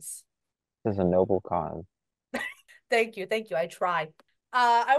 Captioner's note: laughs